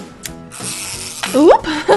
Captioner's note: bgmusic, winding; laugh